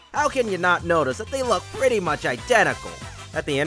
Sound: none

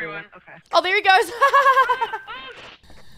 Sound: laugh

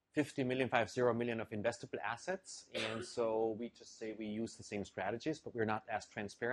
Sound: cough

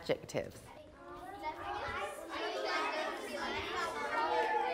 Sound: indistinct chatter

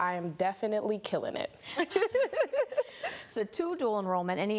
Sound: laughs

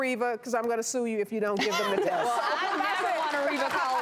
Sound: laughing and applauding

